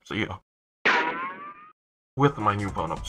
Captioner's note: now playing: Stock ricochet sound effect